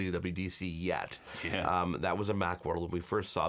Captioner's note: chuckles